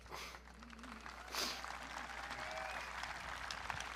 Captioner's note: audience clapping